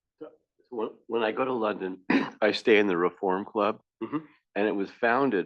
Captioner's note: cough